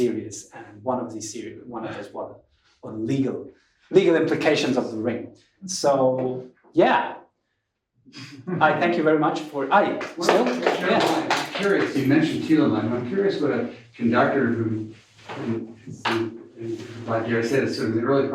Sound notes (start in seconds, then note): 9.9 applause